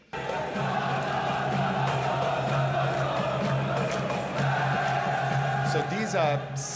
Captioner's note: crowd chants in foreign language